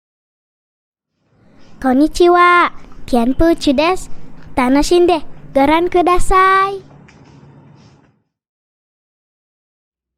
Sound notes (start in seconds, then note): 1.9 Speaking Japanese